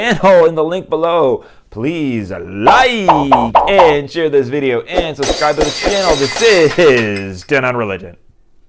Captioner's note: glass breaking